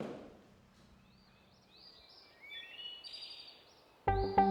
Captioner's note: birds chirping; rapid instrumental music